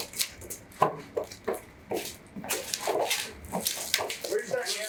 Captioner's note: footsteps pounding